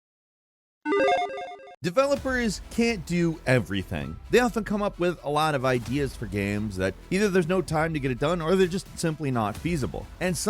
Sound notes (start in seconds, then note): 0.9 logo beeps